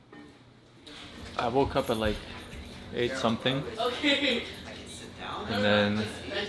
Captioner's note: laughs